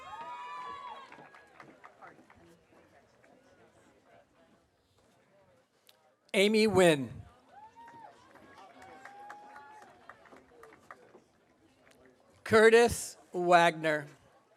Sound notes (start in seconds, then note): 0.0 audience cheering; 7.6 audience applauding